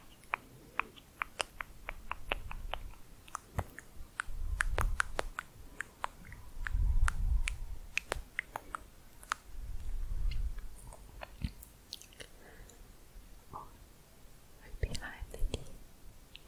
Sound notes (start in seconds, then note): 0.0 clicking on teeth; 3.0 higher pitched clicking; 16.2 quick tongue clicking